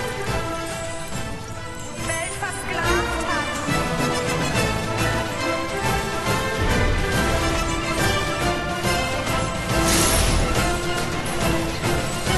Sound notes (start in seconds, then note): 0.0 chain clinking; 8.7 chain scraping; 9.8 explosion crack